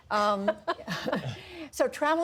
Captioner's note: laughter